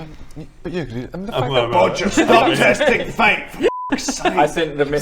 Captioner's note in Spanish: murmurando